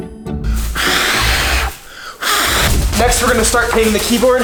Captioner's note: quirky music; blows